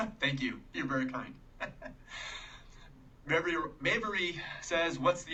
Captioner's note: laughing